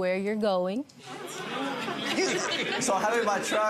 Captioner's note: audience laughing